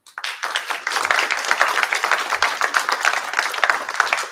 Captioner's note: applause